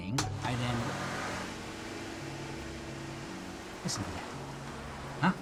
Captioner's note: loud whizzing noises